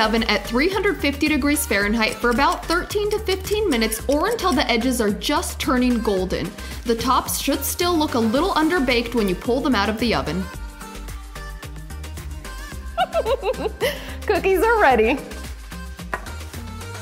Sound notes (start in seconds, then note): 12.9 chuckles